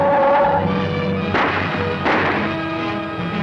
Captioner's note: gun humming; gunshot